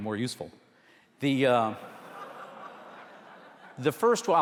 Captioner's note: audience laughter